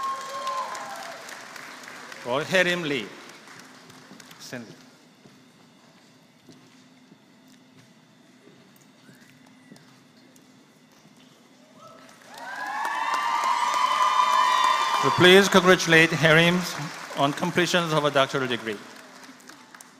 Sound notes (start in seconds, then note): 0.0 applause; 12.0 applause